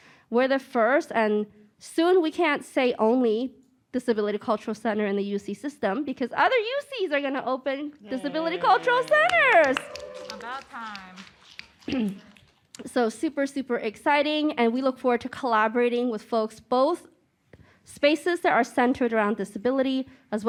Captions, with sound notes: We're the first, and soon we can't say only, Disability Cultural Center in the UC system because other UCs are gonna open Disability Cultural Centers. (applause and cheering) About time. So, super, super exciting. And we look forward to collaborating with folks, both spaces that are centered around disability as